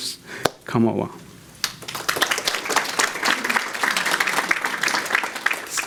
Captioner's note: audience Clapping